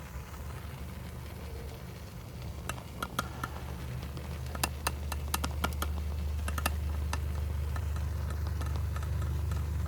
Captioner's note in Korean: 지글지글지글